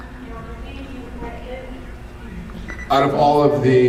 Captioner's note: none